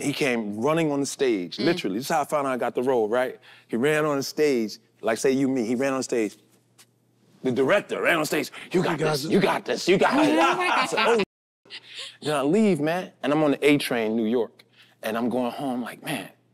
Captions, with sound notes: he came running on the stage, literally. This is how I found out I got the role, right? He ran on the stage, like say you me, he ran on stage, the director ran on stage. "You got guys! You got this! You got this!" (group laughs) I said, "Oh shit!" Then I leave, man. And I'm on the A train in New York and I'm going home like, "Man!"